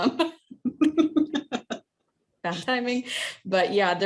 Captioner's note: speaking in Native language